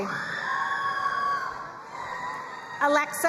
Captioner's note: crowd cheering and applauding